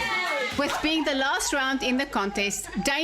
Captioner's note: narrating